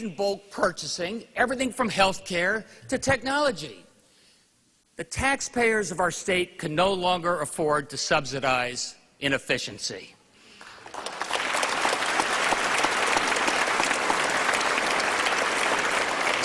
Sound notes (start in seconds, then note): 14.9 applause